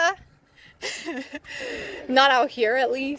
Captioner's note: laughs